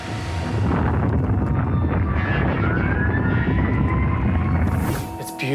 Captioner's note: siren wailing